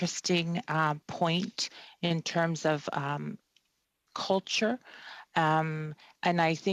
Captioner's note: speaking French